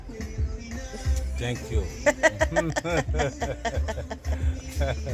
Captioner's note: laughter from both